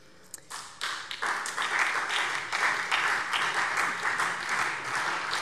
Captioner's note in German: Beifall